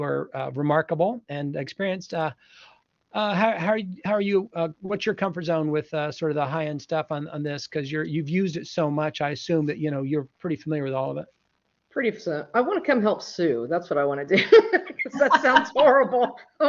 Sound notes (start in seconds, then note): 14.3 laughter